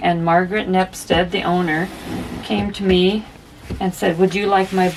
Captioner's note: none